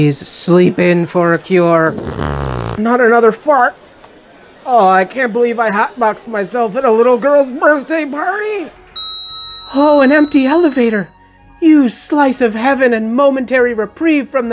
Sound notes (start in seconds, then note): 8.9 elevator beep